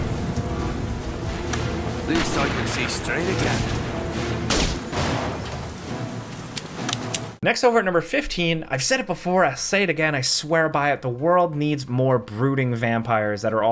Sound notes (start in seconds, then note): 6.4 gun cocking